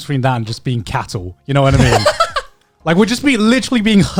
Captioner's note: chuckling